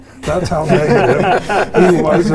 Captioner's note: participants laughing